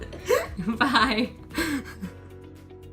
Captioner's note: laughter; laughs